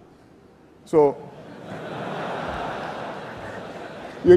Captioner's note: laughter